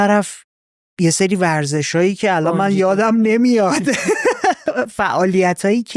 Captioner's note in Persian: خنده